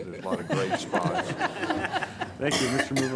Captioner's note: everyone laughs